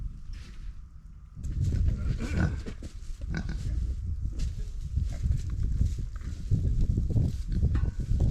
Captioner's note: grunts